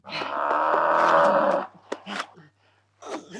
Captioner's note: haha; moo